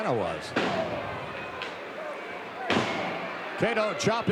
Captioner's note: feet thudding